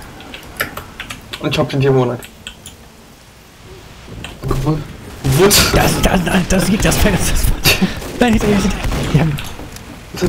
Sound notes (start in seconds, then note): 4.1 faint decloaking sound; 5.4 laughing